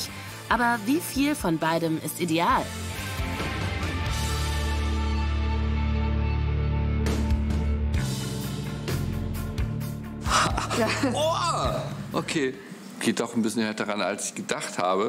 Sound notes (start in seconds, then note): 2.8 rock music; 10.4 painful sound